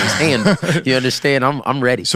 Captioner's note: laughs